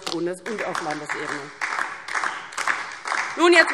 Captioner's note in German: Beifall DIE LINKE